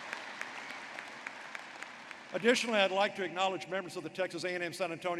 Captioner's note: applause